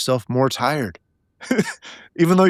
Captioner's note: laughing